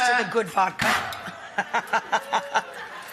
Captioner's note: laughs